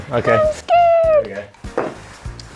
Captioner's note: footsteps